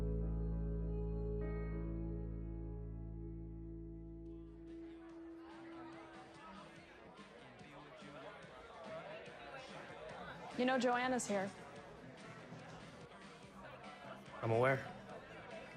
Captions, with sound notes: [CHATTERING] You know, Joanna's here. I'm aware.